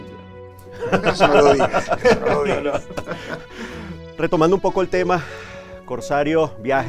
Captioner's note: laughs